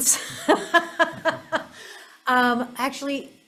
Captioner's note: laughs